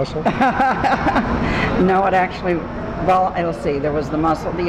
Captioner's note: laughs